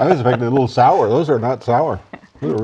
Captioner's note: laughter